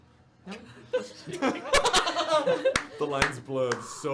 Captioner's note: laughter